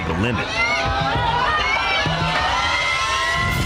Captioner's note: cheering